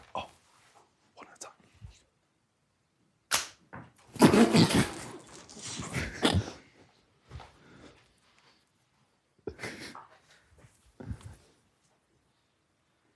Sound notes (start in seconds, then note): 3.3 rubber band snaps; 3.7 ball bouncing on floor; 5.6 group quietly snort-laughing